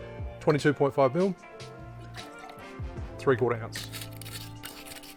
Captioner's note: liquid sloshing